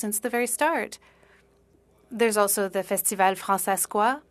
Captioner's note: speaking French